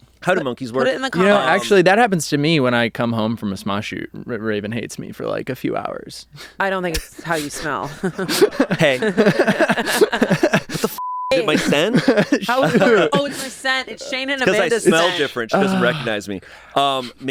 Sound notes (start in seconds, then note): 7.0 everyone laughs; 10.9 beep